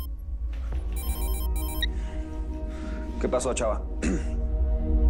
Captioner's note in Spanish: Suena el celular